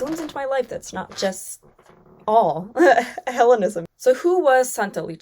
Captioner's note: chuckles